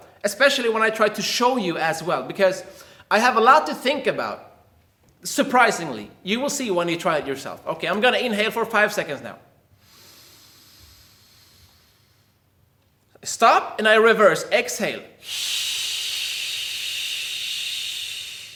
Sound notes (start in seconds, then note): 9.8 air hisses; 15.2 air hisses